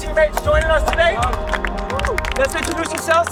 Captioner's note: participants clapping